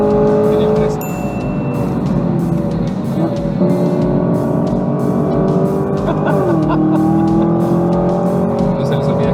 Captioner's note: engine revving; laughter